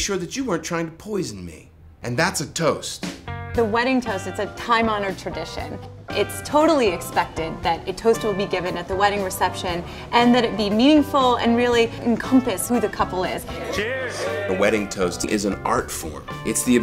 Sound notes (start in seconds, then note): 13.5 cheers